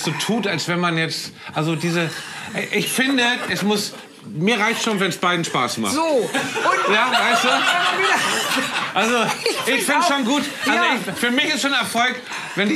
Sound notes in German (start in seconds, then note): 8.0 Lachen